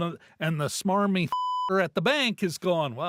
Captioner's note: beep